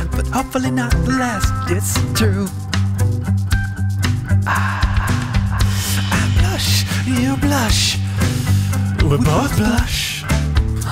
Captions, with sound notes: But hopefully not the last, it's true *Exhales loudly* I blush. You blush We both blush